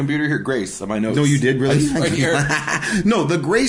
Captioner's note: laughing